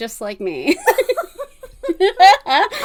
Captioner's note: laughs